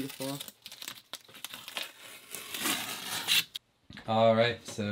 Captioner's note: tape ripping